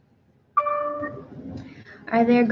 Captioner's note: computer dings